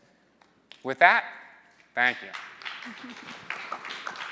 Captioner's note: applause